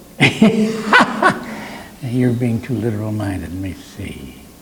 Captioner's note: laughs